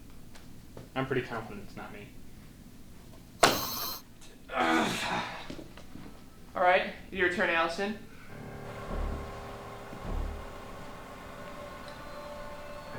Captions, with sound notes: - You know what? I'm pretty confident it's not me. (Sizzle) - All right, your turn Allison. (tense music)